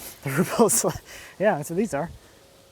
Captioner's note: chuckles